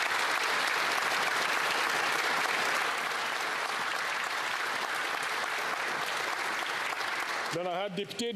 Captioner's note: some Applause